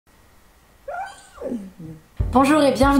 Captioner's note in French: couinement